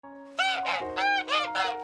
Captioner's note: hosts honk